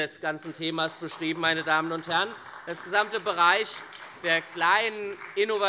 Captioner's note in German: Beifall bei der SPD